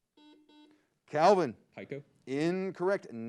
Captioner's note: buzzer beeps